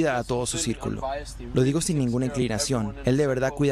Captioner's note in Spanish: HABLA EN INGLéS